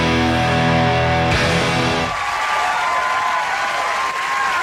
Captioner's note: crowd cheers